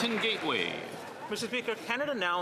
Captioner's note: some Applause